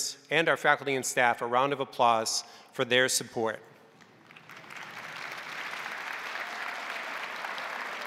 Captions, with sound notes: and our faculty and staff a round of applause for their support. (crowd applauding)